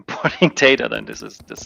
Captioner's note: chuckling